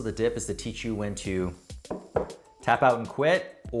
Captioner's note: taps